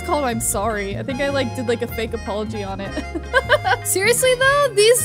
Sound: laughs

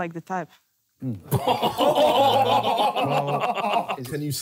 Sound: laughing

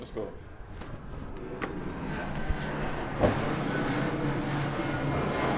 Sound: airplane flying overhead

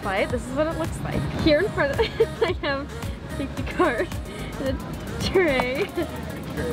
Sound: laughs

